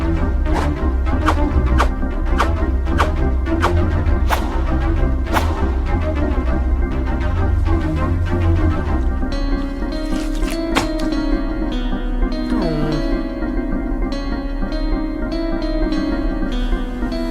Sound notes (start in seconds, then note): 9.6 soft tense music; 10.0 brain squishing